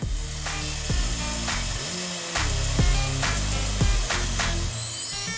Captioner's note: air escaping from tire sound